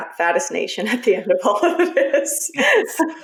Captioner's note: laughs